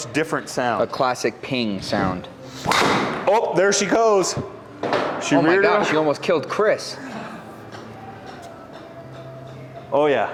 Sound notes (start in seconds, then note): 2.6 club swishing and clicking; 2.6 impact of ball thudding; 7.2 chuckling